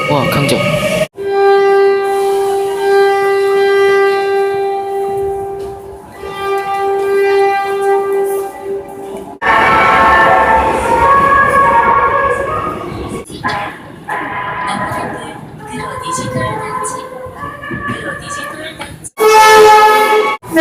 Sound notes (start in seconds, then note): 7.9 air Horn; 19.1 air Horn